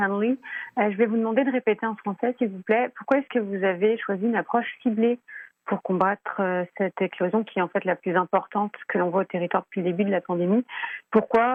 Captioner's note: speaking French